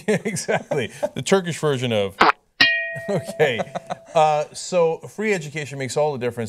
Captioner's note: spittoon sound effect